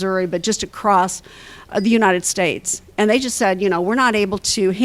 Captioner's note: none